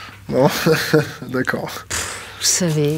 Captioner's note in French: Rires